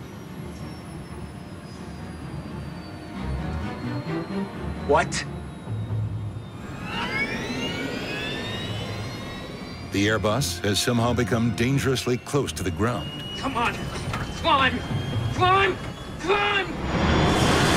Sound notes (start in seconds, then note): 0.1 tense music; 5.7 airplane controls winding up; 5.7 tense music; 16.5 dramatic music